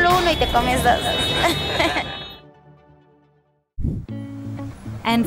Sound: laughs; chill guitar music

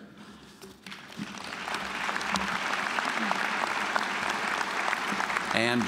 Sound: applause

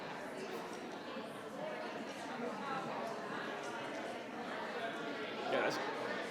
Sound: audience and board members chatting indistinctly continues

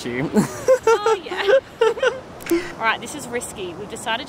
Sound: chuckles

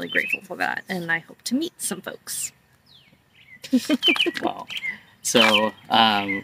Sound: laughs

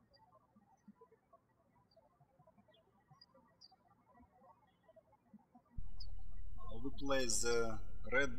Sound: birds chirping

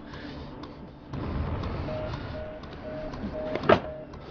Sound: quick breathing; drawer closing

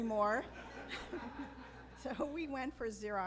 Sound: laughs

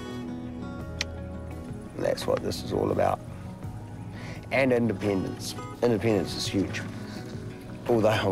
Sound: clicks tongue

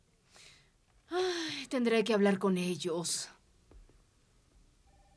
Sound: sighs

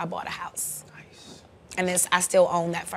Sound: whispering

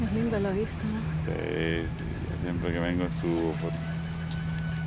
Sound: speaking Spanish

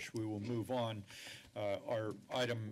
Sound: inhales

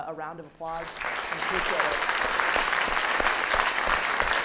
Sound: audience clapping

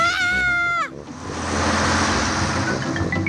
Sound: shrieks

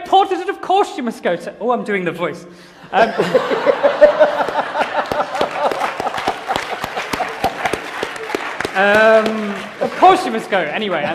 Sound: laughter and applause

